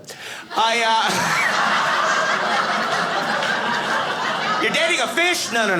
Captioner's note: audience laughing